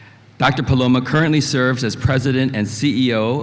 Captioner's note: none